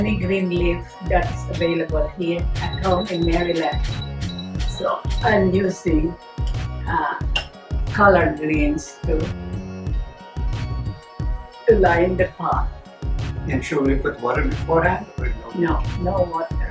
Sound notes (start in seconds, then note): 2.5 hot plate beeps